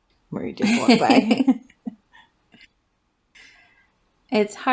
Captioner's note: laugh